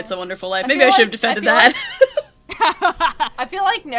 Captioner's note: laughs